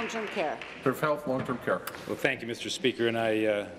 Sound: applause

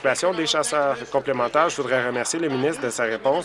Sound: applause

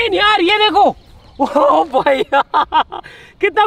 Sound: laughing

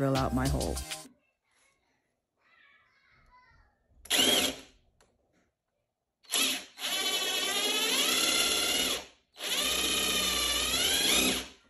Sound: sound of drill

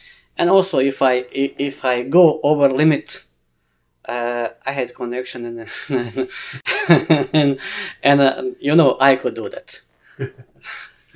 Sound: laughs

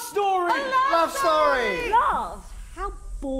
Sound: ghosts hiss

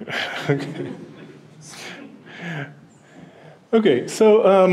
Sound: laughing

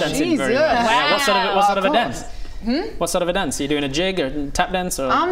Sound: none

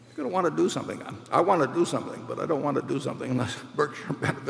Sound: laughs

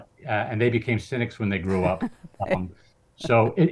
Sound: laughs

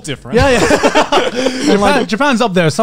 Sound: laughing

